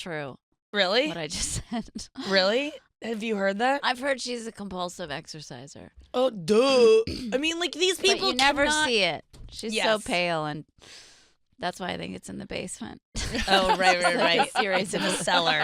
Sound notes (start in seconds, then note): 13.4 laughs